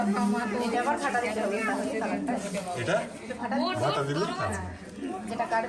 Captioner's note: people chattering in foreign language